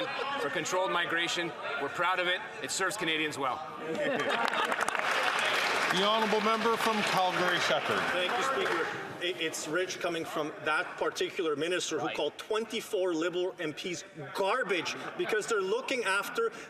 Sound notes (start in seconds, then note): 1.0 some laughter; 9.9 some Applause